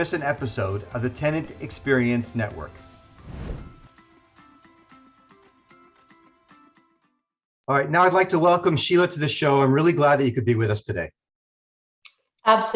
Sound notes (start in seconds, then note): 3.1 air whooshing; 4.5 upbeat music